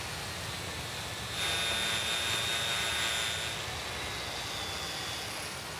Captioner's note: grinder buzzes